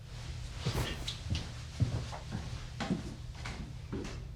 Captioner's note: footsteps thudding